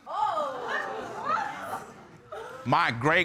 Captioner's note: audience exclaiming